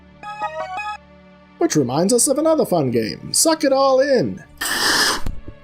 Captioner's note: success fanfare; slurp